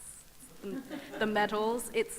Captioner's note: audience laughs